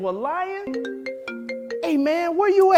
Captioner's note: mobile phone rings